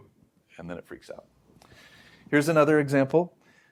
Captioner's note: inhales